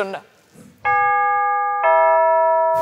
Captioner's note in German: Glockenton